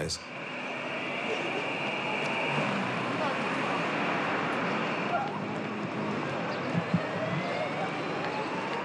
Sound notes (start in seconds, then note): 2.4 siren howls